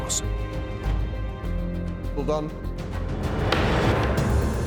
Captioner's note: gavel pounds